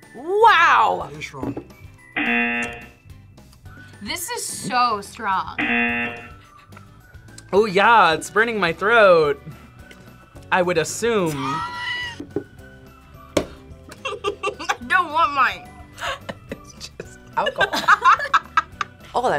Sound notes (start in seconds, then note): 2.1 buzzer; 5.6 buzzer; 11.3 laughs; 13.9 laughs; 15.9 both laugh